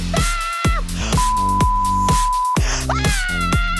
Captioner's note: beep